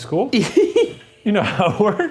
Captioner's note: chuckles